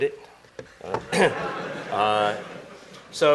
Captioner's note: laughter